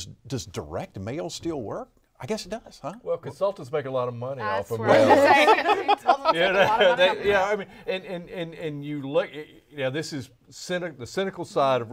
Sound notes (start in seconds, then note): 4.8 all laughing